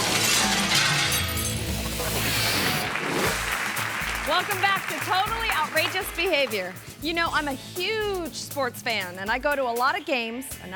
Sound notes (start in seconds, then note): 2.6 audience applauds